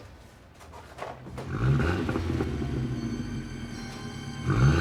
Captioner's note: enging revving